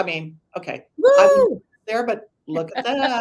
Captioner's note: whoops